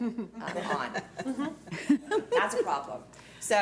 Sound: laughing

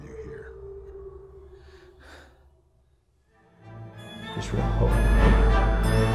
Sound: distant weeping

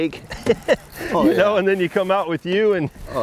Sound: laughs

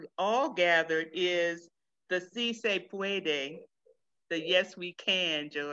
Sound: speaks in foreign language

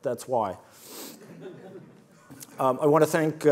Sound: audience laughs

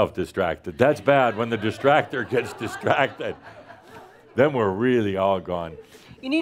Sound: laughter

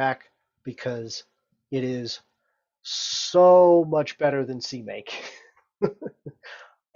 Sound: laughs

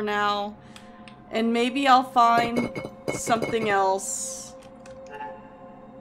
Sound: wall Rattles

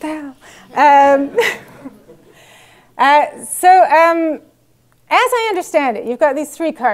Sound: laugh

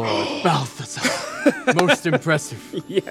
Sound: laughter

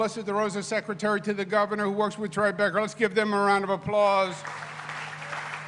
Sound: applause

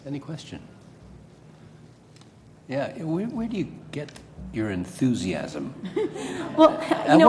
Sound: laugh

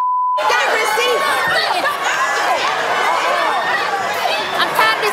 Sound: audience yells

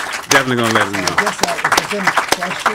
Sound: audience claps

